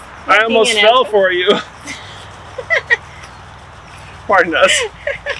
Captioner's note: laughing